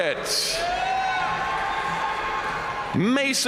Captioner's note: audience cheering and applauding